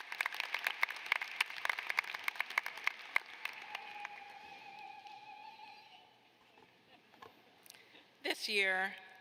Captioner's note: applause